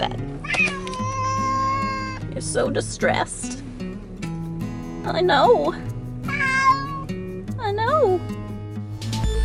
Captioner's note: meow!; intro music